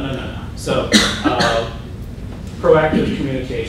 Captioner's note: coughing